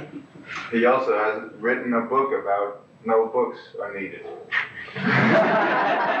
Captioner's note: laughter